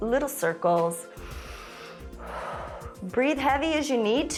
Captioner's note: inhales and exhales